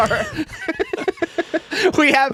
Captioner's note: laughing